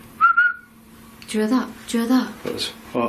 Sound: whistles

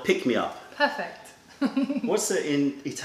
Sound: laughter

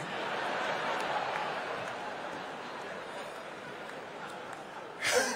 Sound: laughter

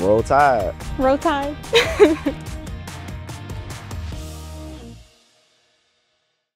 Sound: laughing

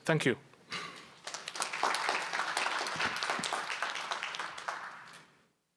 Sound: applause

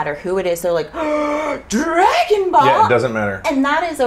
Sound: shocked gasp

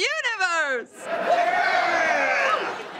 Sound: cheering

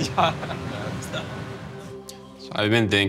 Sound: laughter

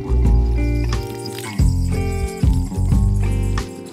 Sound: splashing

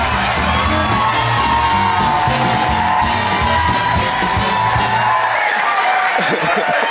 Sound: clapping

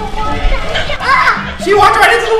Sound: light scream

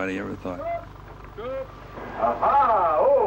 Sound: yelling

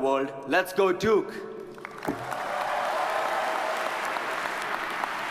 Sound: audience applauds

